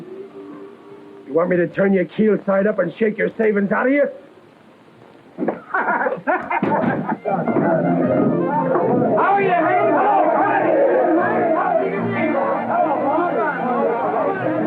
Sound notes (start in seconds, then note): 5.5 laughter